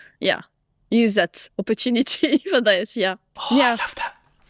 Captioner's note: chuckles